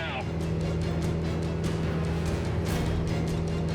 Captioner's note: edgy dramatic music; plane humming; plan humming; suspenseful music